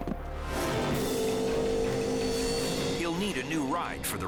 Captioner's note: engine revving